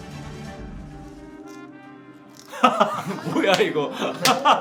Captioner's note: crack